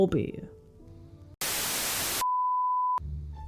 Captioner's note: static